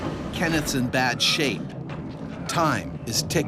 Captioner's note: voiceover